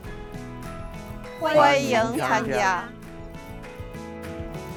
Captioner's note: speaking chinese